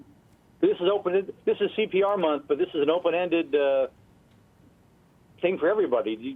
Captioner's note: voiceover